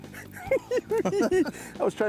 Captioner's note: giggling